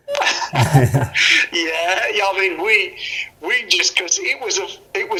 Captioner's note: laughs